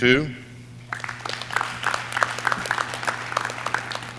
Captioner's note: audience clapping